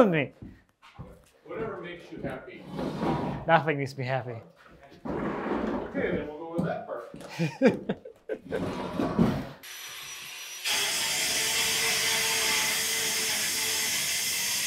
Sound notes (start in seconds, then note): 7.2 laughs; 9.6 saw buzzing